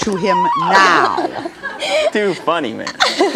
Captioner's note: laughing